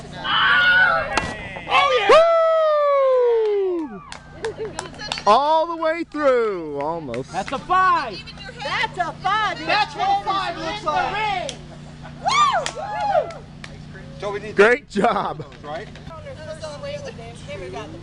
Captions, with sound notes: [ Screams ] [ Cheers ] - All the way through! Almost. - That's a 5! - That's a 5! - That's what 5 looks like! [ Cheers & Applause ] - Great job!